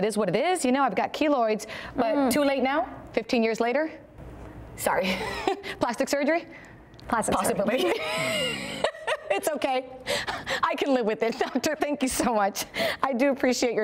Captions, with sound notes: what it is you know I've got keloids but too late now 15 years later? Sorry plastic surgery? (laughs.) Possibly. It's okay I can live with it. Doctor thank you so much I do appreciate your